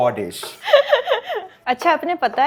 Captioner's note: chuckles